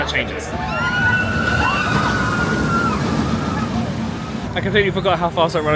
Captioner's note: people on rollercoaster scream